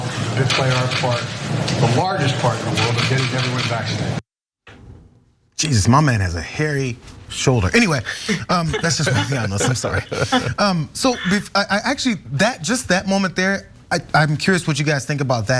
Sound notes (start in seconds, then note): 7.6 laugh